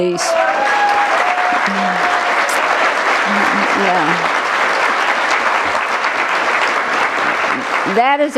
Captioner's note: cheers and applause